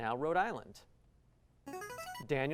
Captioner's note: buzzer